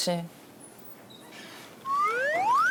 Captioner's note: creak